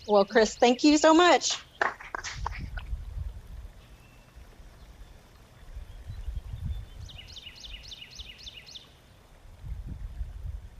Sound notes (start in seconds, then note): 1.8 audience claps; 7.3 songbird trilling